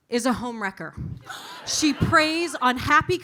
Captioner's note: audience laughing